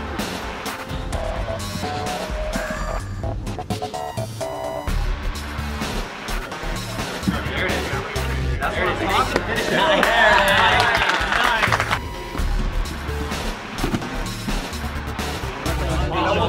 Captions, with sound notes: (chattering) - That's what I'm talking-- - Nice! (applauding)